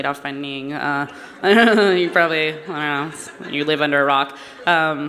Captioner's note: laughter